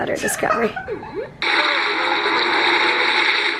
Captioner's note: laughter